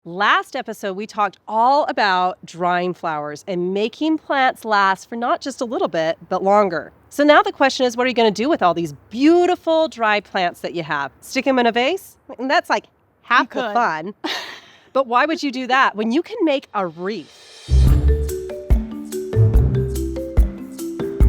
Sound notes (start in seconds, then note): 13.5 laughs; 17.5 bright cheerful music